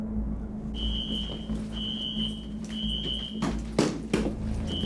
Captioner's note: alarm screeching